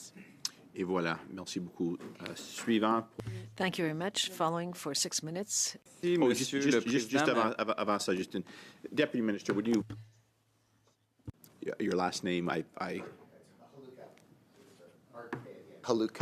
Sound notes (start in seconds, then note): 7.9 speaking French